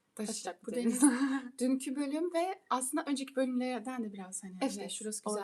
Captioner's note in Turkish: boğazını temizler